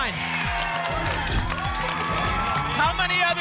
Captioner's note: applause and cheering